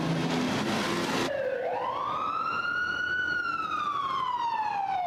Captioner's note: sirens blaring